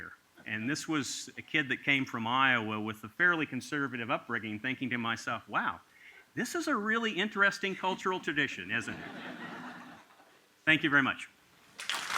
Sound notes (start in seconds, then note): 8.8 laughter